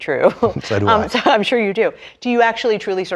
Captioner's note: laugh